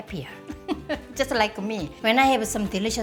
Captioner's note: laughing